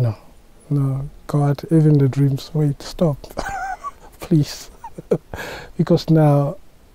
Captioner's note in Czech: smích